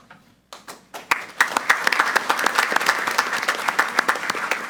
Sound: group applauding

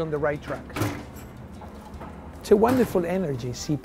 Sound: bowl clinks

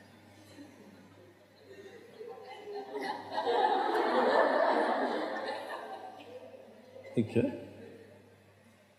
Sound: laughter

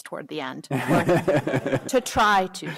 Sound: laughter

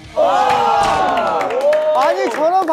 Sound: applause

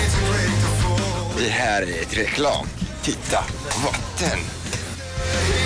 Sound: in Swedish

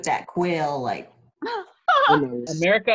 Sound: laughter

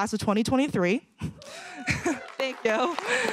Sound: cheering

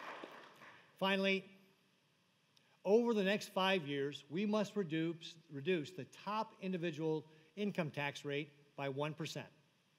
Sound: applause

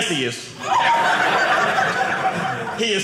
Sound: audience laughing

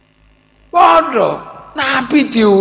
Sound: laughs

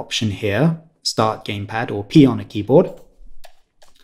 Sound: keyboard

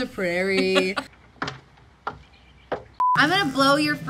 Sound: footsteps

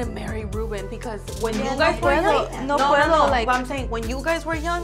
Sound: speaks in foreign language

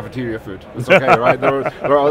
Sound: laughs

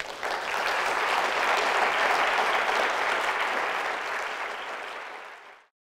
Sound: applause

